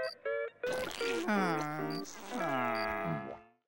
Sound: groaning

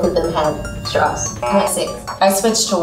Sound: buzzes

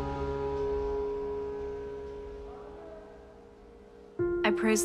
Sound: melancholic music continues; shop sounds fade

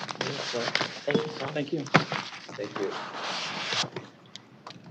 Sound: overlapping chatter

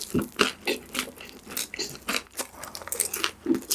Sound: crunchy

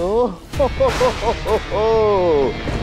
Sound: laughs

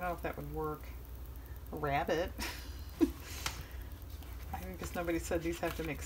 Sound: laughs

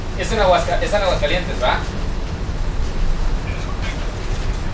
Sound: speaking foreign language

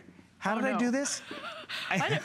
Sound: laughter

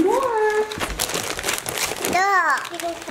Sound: paper crinkling; babbles

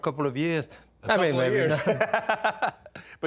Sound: laughs

